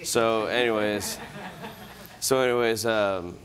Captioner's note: laughter